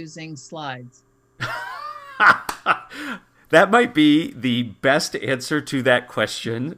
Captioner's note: laugh